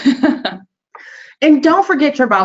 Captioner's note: laughing